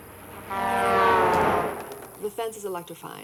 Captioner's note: cars honking